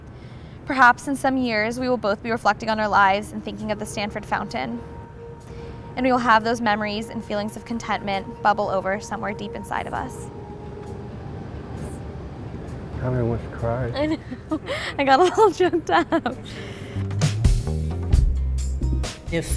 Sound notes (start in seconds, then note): 10.6 mellow music; 13.9 laughs; 16.9 mellow music